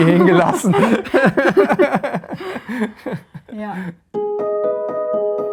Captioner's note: both laugh; mystical music